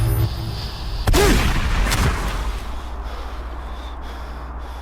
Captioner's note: gun fires